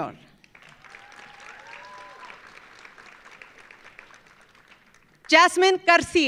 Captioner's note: audience applauding; audience cheering